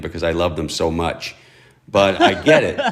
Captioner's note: laughter